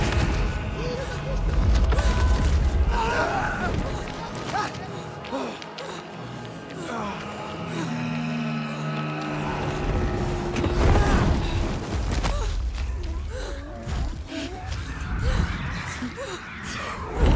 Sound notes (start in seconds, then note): 2.8 screaming; 3.2 grunting; 7.6 growling; 10.8 screaming; 13.0 gasping